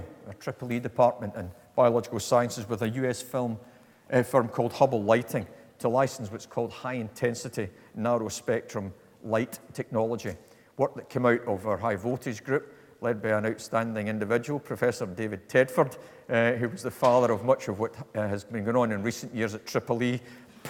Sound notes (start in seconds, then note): none